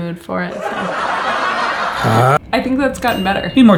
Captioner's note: canned laughing